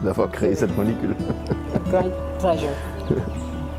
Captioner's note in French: rires